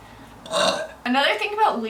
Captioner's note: burps